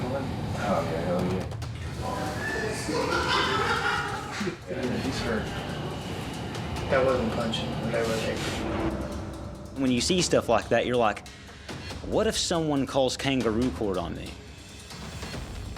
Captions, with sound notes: [laughter] When you see stuff like that, you're like, what if someone calls kangaroo court on me?